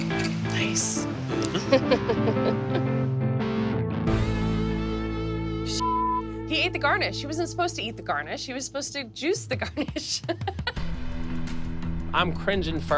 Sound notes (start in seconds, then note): 9.8 laughs